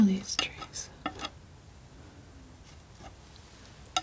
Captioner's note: scratching